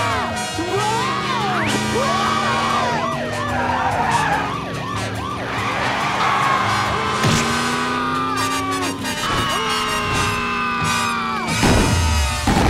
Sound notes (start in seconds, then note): 5.9 screaming